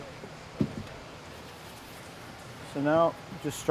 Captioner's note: shuffling